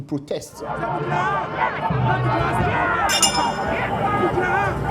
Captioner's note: agitating crowd